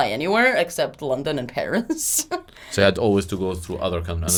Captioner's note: laughs